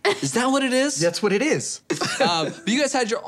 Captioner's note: laughing